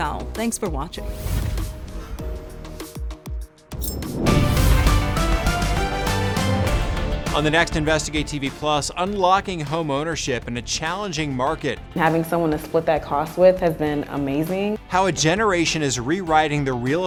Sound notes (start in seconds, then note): 1.3 air whooshes; 1.3 lighthearted music; 4.6 dramatic music